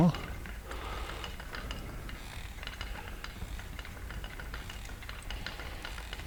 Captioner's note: breathing